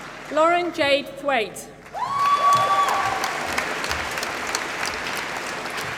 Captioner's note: applause